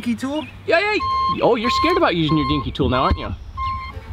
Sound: alarm beeping

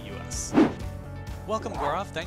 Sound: air whooshing

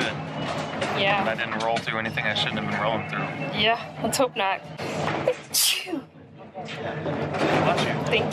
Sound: sneeze

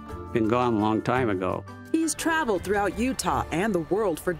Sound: voiceover

